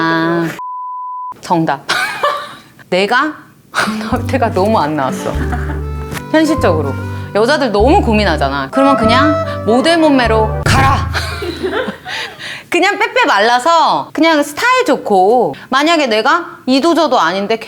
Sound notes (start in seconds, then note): 11.1 laugh